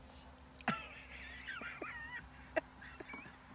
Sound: laughing

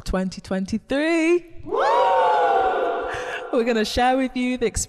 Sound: everyone cheers

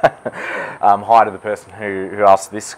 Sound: laughs

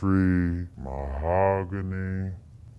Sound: deeper, slowed-down voice

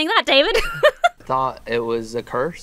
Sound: laughs like someone who enjoys torturing her employees

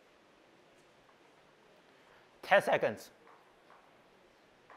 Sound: none

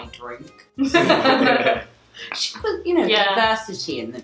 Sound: laughing

